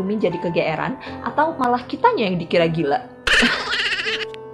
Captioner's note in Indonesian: haha